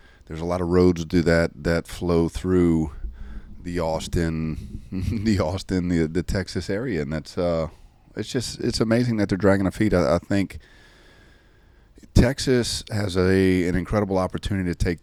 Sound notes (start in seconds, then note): 4.9 chuckles